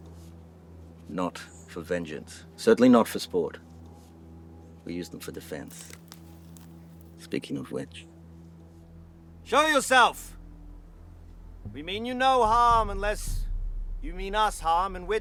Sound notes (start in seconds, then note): 5.6 twigs breaking